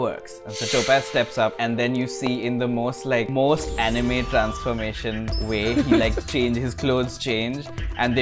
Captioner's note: laughter